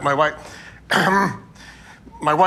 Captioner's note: clears throat